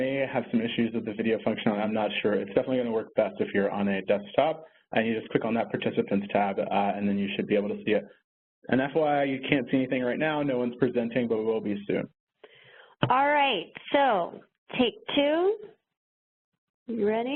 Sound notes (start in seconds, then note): none